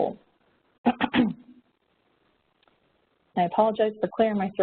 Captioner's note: clears throat